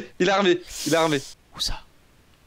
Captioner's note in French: chuchote